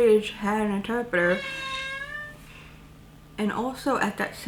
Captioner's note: cat meowing